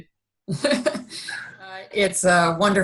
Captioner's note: laughing